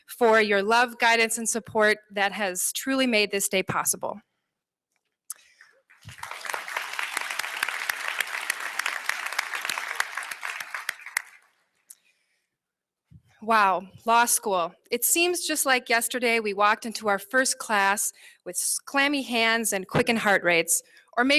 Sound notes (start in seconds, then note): 5.4 applause